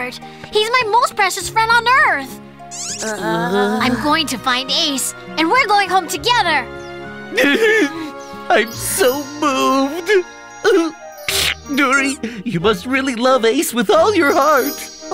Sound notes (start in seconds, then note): 2.7 groans, squeaks; 7.3 Blo sobs